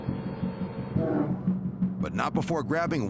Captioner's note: bear growls